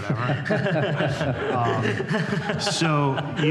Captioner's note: laughter